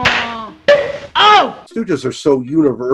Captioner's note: hand slapping; boink